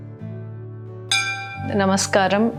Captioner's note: temple bell rings